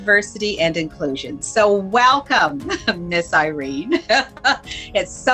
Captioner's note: laughs